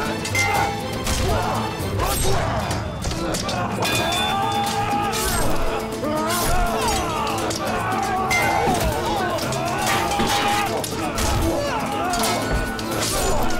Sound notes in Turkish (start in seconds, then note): 3.4 Kılıç sesleri; 3.4 Müzik - Gerilim